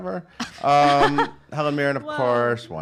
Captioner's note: laugh